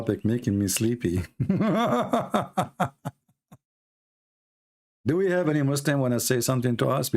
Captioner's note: Ketawa